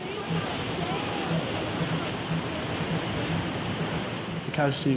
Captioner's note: waves crashing